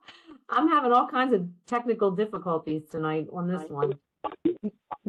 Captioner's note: laugh